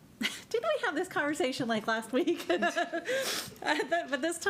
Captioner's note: laughs